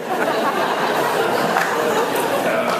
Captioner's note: laughs